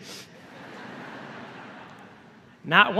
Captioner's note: laughter